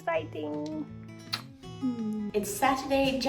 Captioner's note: gentle music; kissing